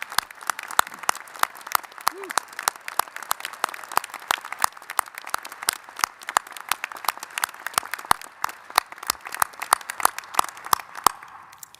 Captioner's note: applause